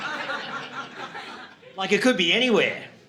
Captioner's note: audience laughing